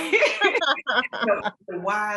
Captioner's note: laughs